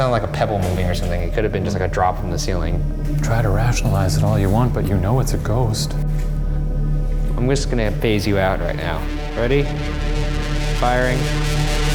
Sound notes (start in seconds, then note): 0.9 object strikes ground